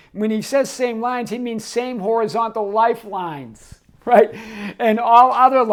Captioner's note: laughing